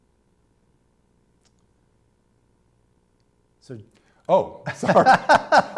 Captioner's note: laughter